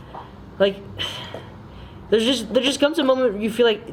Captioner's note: sighs